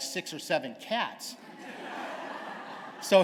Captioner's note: laughter